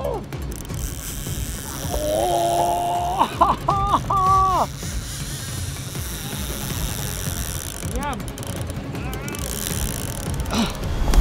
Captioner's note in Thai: เสียงรอกตกปลา